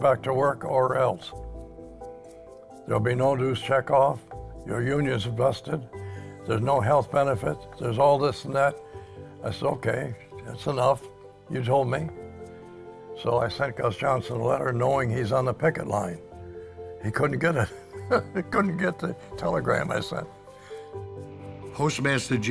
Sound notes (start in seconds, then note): 18.0 laughs